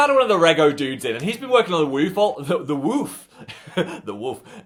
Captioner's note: chuckles